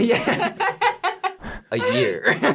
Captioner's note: laughing